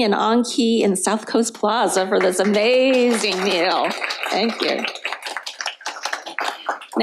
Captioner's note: applause